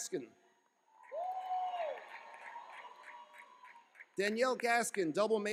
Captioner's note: cheering